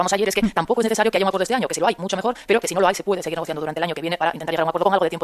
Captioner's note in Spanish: Audio de pódcast con velocidad duplicada